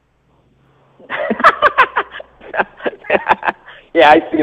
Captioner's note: laughs